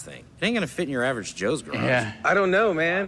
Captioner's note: none